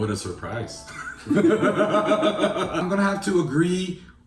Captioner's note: laughing